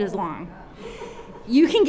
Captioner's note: audience exclaim and laugh